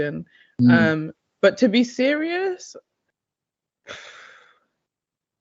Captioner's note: sighs